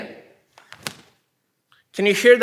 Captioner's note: snapping